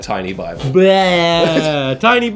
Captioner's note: fake vomit noise